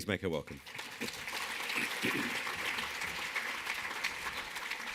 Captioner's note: audience applauds